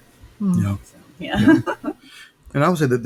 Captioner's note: chuckling